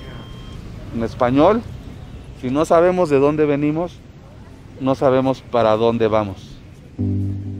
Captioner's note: speaking Spanish